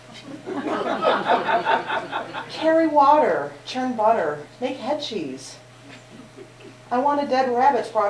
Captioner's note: laughter